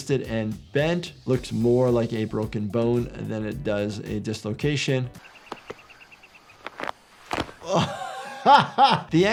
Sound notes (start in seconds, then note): 5.1 bird chirping; 6.4 foot crunching; 7.4 laughs